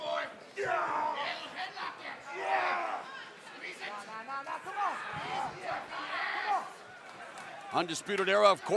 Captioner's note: crowd chatter